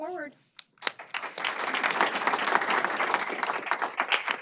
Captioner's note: applause